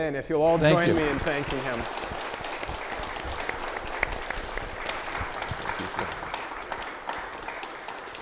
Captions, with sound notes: And if you'll all join me in thanking him. - Thank you. (audience applauding)